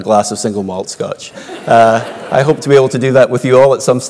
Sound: laugh

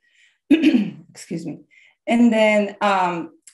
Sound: clears throat

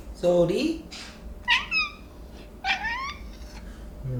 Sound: meows

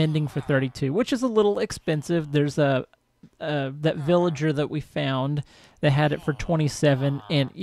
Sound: chattering continues

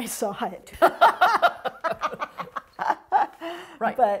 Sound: both laughing

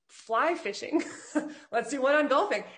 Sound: laughs

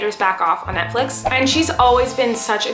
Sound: air whooshes

